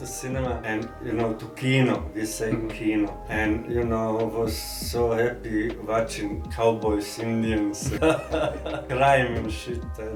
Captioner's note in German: Lacht